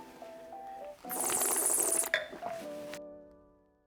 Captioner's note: slow music; slurps